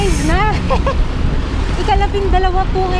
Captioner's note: laughs